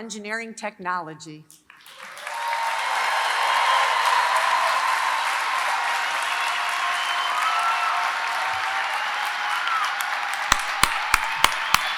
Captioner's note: applause